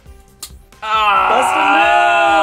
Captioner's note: angrily groans